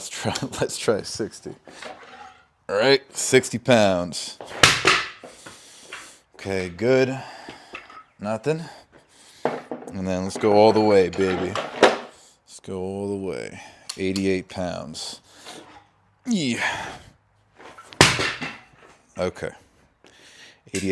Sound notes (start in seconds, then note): 4.5 dumbbell crashes; 17.9 dumbbell crashes